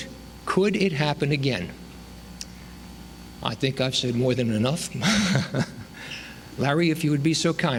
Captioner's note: laughs